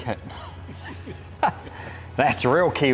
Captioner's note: chuckles